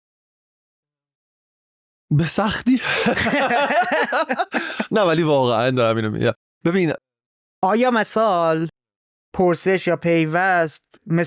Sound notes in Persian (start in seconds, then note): 2.7 خنده